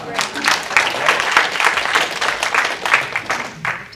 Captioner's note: applause